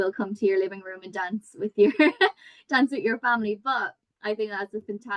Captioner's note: chuckles